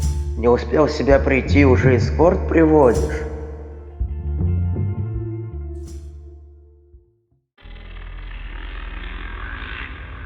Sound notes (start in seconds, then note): none